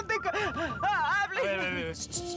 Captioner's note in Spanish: suena el celular